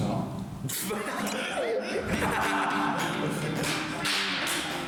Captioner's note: bursts out laughing